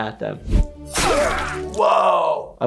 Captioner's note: sword slicing